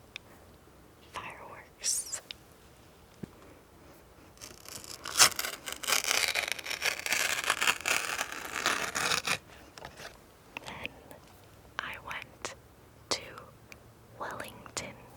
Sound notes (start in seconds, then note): 4.3 paper tearing